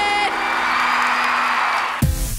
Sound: crowd cheers

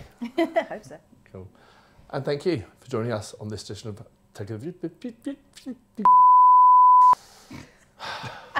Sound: speaks gibberish

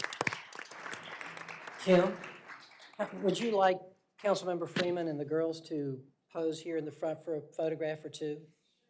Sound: applause

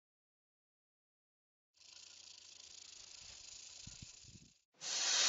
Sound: rattling

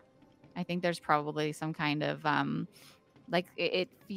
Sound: none

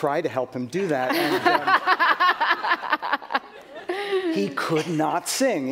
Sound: laughter

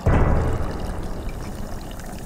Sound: wine pouring

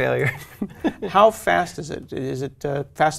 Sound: laugh

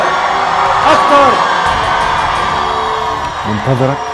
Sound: screams!

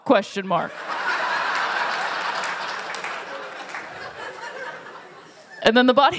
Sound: laughter

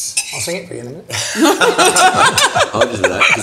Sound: group laughs

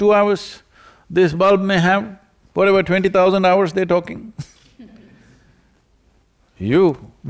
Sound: laughter

